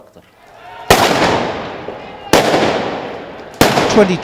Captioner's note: gun shots